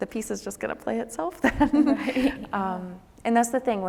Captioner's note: laughs